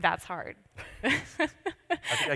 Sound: laughs

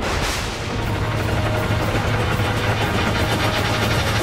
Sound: thundering; machine turning

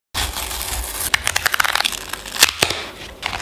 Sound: tearing noise

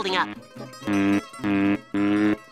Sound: buzzes three times

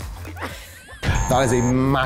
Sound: laughs

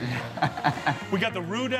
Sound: laughs

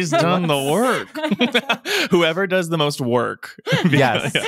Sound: laughing

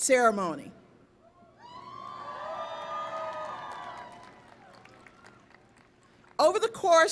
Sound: cheering

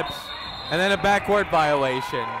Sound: whistle blowing

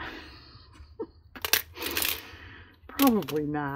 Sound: laughs

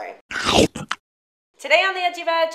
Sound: loud chewing

